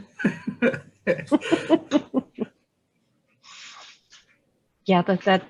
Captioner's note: laughing lightly